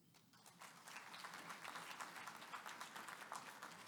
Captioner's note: applause